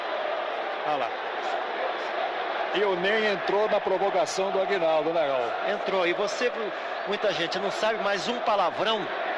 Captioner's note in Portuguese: aplausos